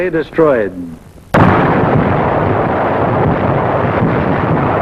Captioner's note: guns firing